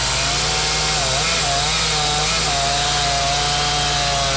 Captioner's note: chainsaw humming